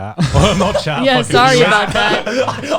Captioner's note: laughs